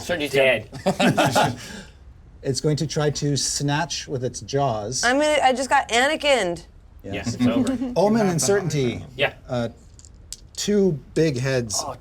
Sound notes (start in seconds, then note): 0.8 laughs